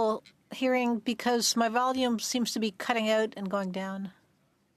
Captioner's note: speaking French